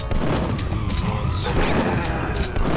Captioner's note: intense Doorfighting sounds